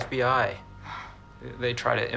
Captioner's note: scoffing